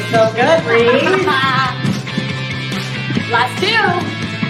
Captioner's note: laughing